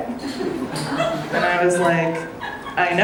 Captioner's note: audience laughing